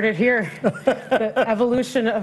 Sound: laughs

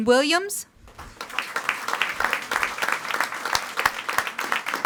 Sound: audience applauding

